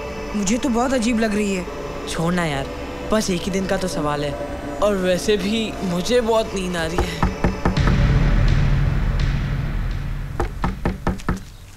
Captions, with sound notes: I find it really weird. Never mind. It's just the matter of a day. As it is, I'm really sleepy. (Door knocking) (Door knocking)